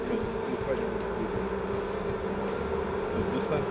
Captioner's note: buzzing